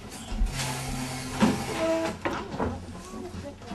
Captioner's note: sound of chairs moving